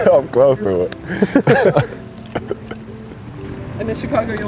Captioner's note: laughing